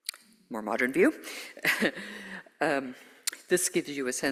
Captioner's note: chuckles